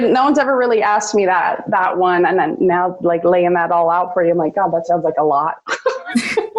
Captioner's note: laughs